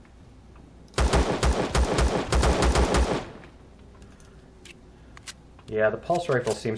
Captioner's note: reloading; pistol firing